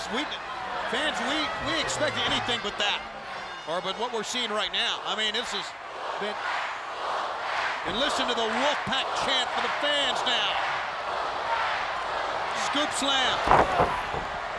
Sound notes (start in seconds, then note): 13.6 applause